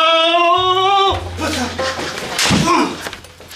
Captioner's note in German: Er schreit